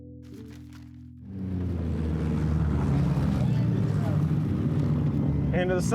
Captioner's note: car engines